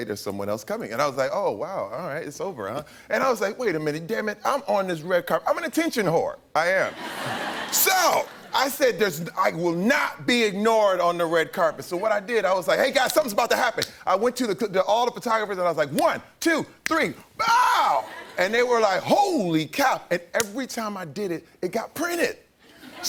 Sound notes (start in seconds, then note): 6.9 laughter